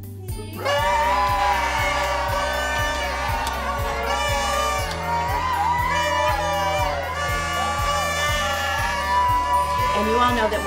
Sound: cheers & applause

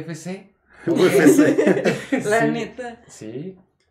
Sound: laughter

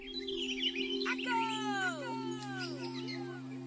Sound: Diamond's echo reverberates

